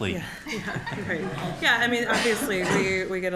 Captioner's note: audience laughing